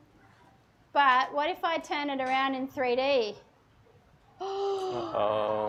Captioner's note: gasps